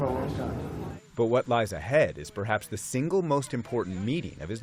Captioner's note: voice-over